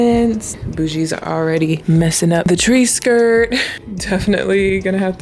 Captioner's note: chuckles